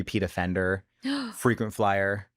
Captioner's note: gasps